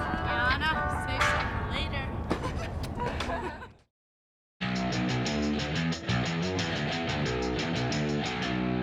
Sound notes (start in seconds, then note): 2.9 laughing; 5.1 upbeat music